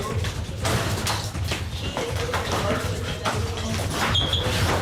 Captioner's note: scuffling noises